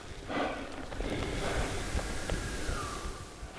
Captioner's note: elk bugling